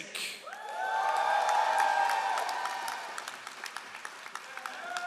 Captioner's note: all applauding